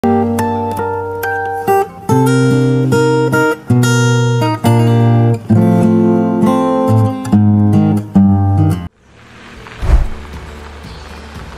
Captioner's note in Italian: Applauso